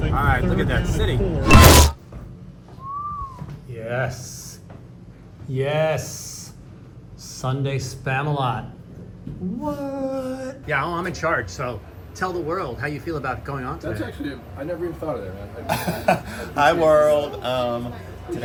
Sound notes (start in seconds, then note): 2.8 whistling; 15.7 laughing